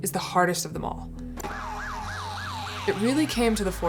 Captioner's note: siren wailing